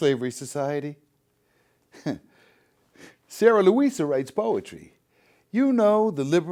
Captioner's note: chuckles